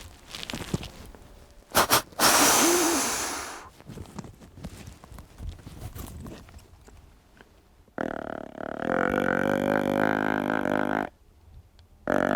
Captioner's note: snort wheezes and grunts at buck